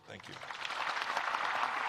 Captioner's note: applause